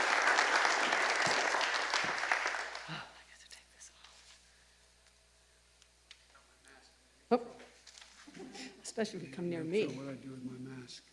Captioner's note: applause